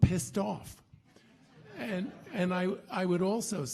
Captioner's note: audience laughing